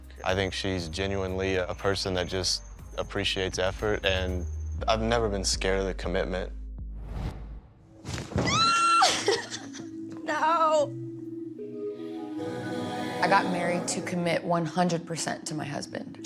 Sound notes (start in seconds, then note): 8.4 screams; 9.0 laughs